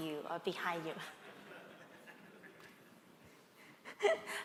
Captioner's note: laughter